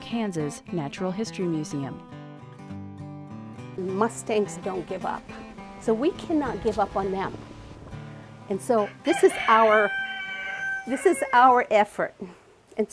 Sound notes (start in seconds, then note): 8.8 rooster crows